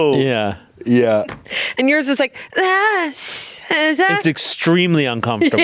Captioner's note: whimpering